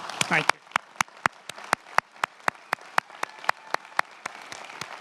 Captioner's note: many applauding